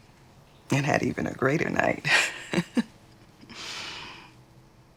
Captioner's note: laughs